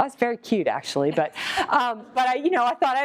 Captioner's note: laughter